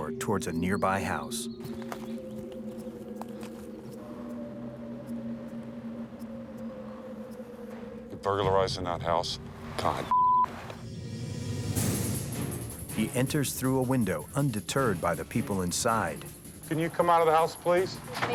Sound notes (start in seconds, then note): 1.9 tense music; 10.0 beeping; 10.7 intense music